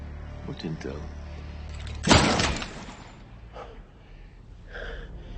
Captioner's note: gun shot fires